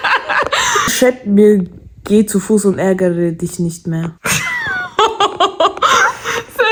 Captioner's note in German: gelächter; gelächter